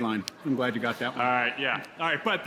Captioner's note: audience laughing